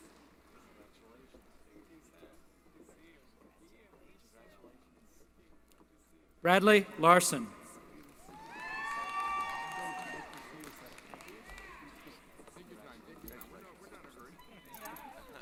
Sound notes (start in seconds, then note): 8.3 applause & Cheering